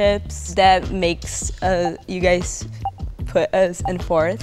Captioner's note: clock ticking